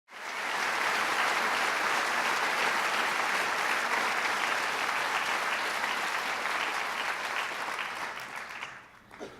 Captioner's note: applause